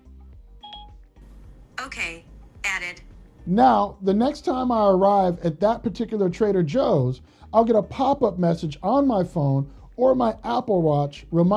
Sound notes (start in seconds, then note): 0.6 phone beeps